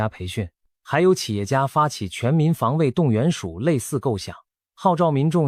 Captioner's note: Taiwanese